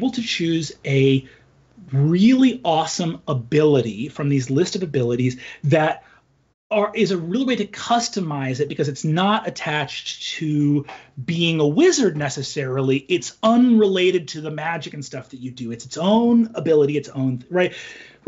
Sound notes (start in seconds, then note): none